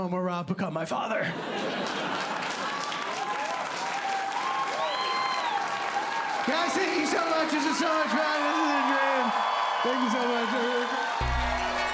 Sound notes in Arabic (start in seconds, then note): 1.8 ضحك; 3.8 هتاف وتصفيق; 11.2 موسيقى متفائلة